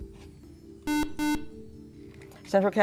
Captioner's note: buzzer